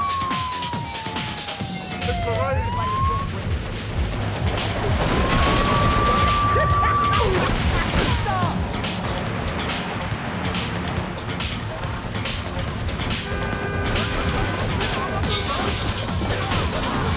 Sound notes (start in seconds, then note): 0.0 tires screeching; 4.2 tires screeching; 5.8 engine revving; 13.3 laughing